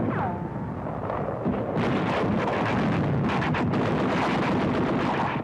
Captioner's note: guns firing in background